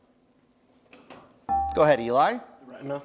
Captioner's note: bell rings